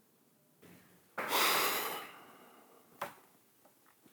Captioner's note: long sigh